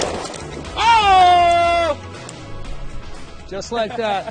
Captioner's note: gun fires